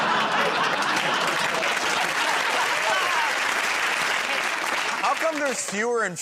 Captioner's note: laughter; applause